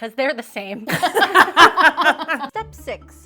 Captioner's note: friends laugh